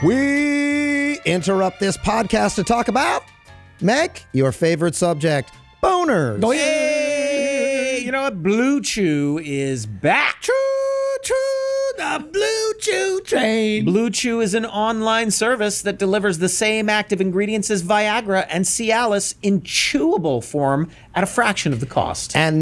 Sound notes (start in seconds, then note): 6.4 all exclaim